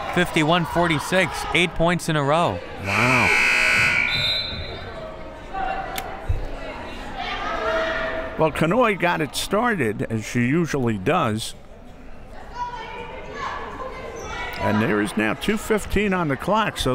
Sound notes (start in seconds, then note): 2.8 buzzer